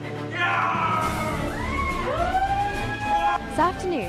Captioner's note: cheering